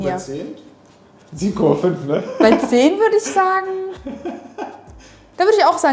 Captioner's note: laughing